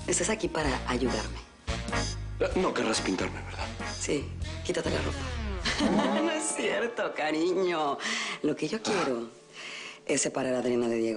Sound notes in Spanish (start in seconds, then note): 5.6 Risas